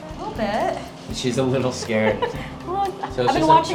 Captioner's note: chuckling